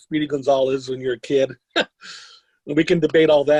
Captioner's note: laughs